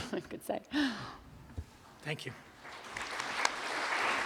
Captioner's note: applause